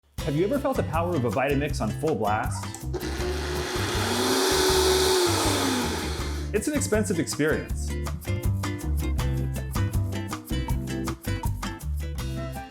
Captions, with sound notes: - Have you ever felt the power of a Vitamix on full blast? (blender whining) It's an expensive experience. (upbeat music)